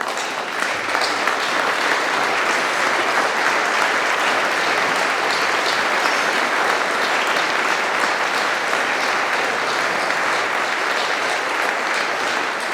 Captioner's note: applause